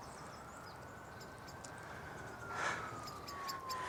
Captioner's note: siren in the distance